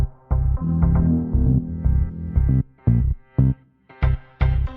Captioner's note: sword whooshes; tense electronic music; sword whooshes